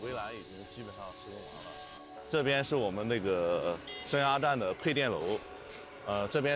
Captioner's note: speaking chinese